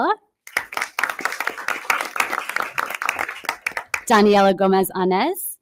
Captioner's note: audience applause